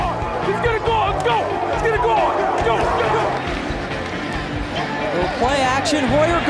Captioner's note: team cheering